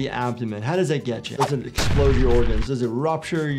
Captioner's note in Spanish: explosión en auge